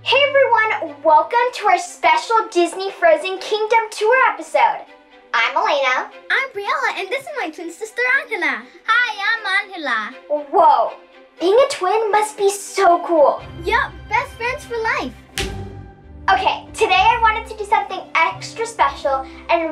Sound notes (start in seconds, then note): 0.0 light, whimsical music; 15.3 girls high-five